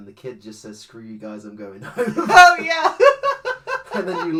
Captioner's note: laughs